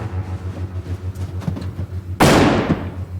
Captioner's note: gunfire